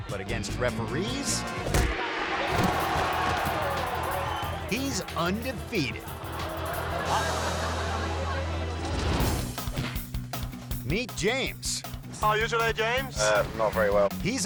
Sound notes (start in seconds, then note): 1.8 crowd shrieking; 7.1 audience laughing